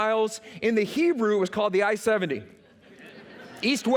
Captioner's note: laughter